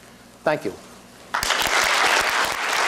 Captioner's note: applause